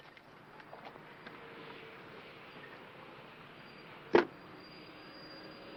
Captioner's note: vehicle approaching